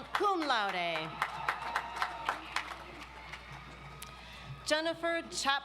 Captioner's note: audience applauds